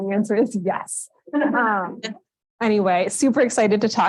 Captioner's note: laughs